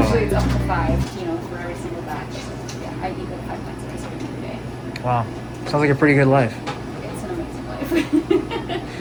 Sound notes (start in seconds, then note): 7.8 chuckles